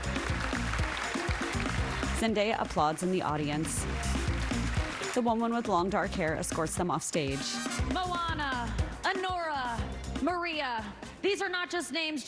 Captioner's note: applause